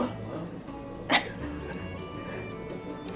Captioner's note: chuckling